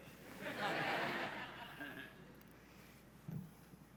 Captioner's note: laughing